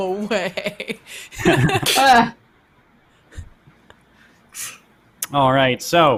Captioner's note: laughs